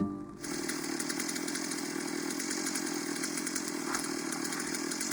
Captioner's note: chainsaw buzzing